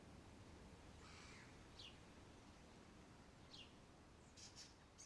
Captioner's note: birds tweeting